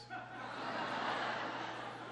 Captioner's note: laughter